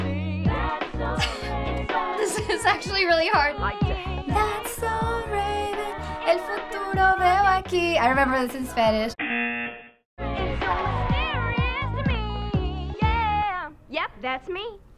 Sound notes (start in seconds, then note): 1.2 laughing; 3.7 singing along; 6.0 singing in Spanish; 9.6 buzzer